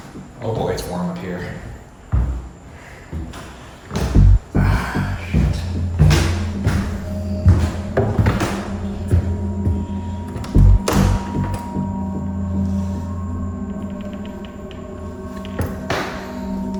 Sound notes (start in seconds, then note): 0.0 footsteps ascending; 2.1 footsteps ascending; 6.0 low ominous music; 10.5 door creaking